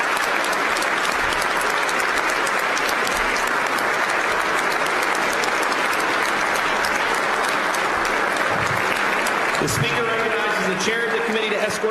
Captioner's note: applause